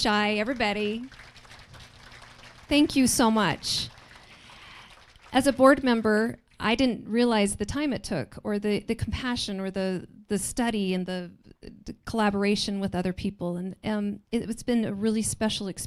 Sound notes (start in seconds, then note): 0.1 applause